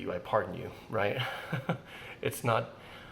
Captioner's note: chuckles